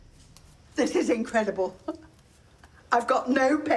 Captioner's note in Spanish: risas